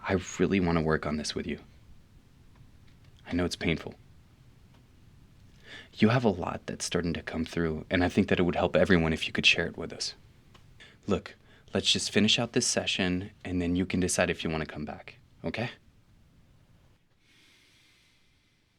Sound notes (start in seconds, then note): none